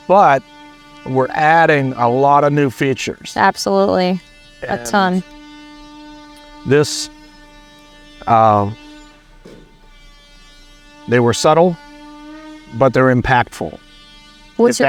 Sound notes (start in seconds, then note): 7.9 machine whirring